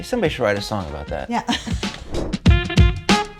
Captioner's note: chuckling; upbeat jazzy music